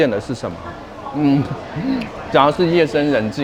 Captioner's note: thinking sound